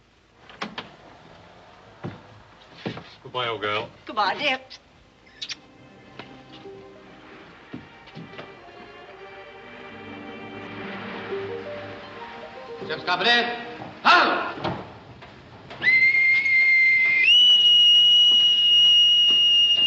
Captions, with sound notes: - Goodbye, old girl. - Goodbye, dear. Ship's company...'shun. (Whistle)